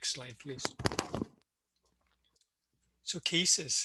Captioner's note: microphone noise